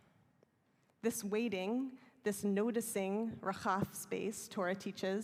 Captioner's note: hebrew